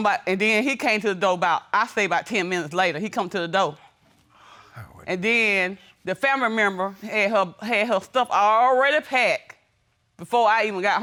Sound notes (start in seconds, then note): none